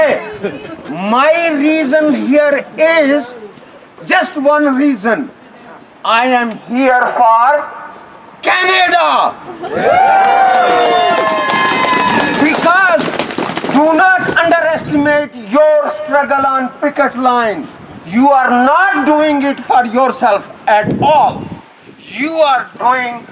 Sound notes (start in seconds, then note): 7.2 applause